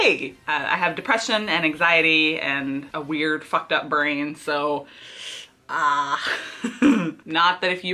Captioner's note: laughs